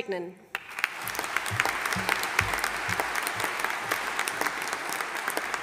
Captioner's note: audience applauding